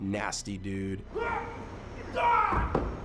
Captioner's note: grunting; groaning